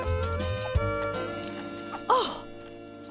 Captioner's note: paper crinkling